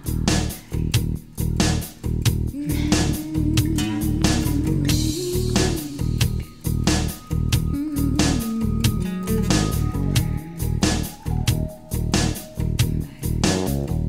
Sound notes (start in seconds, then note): 2.5 humming